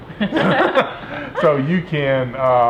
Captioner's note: all laughing